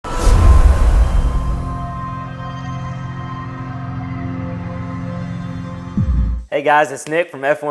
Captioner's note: sound effect